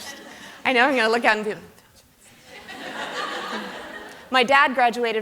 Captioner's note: hand sounds